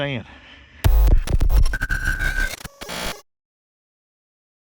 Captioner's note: TV statics